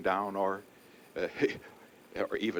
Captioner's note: laughs incredulously